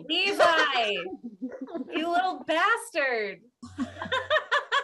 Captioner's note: all laughing